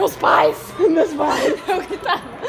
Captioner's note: laugh